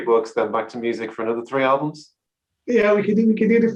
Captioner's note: laughs